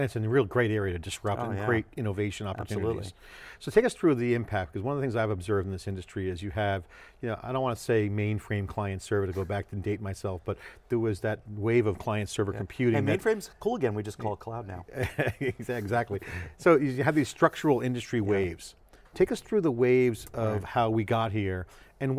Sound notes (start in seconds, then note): 15.1 laughs